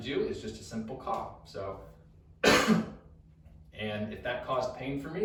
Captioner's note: coughs